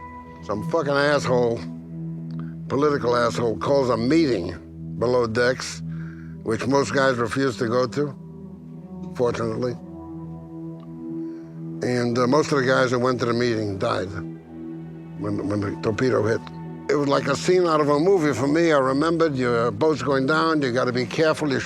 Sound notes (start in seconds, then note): none